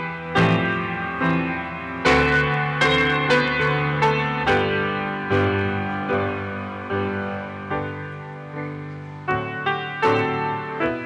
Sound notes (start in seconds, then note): none